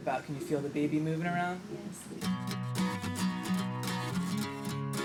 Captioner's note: background conversations